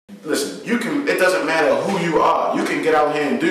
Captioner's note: voiceover